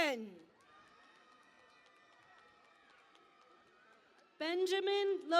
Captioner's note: cheering and Applause